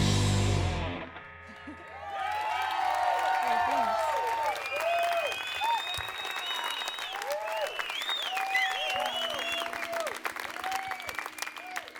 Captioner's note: crowed applause and cheer